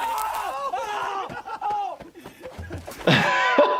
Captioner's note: Bam screams in pain; doctor laughs